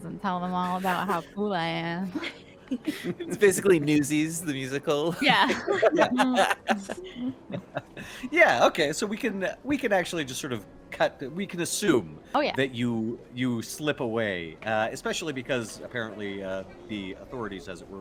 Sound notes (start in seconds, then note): 2.6 laughs; 5.1 game Master laughs; 5.1 laughs